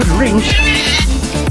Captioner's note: Screech